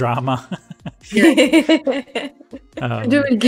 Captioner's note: laughs